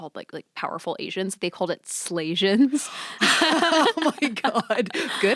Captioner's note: laughs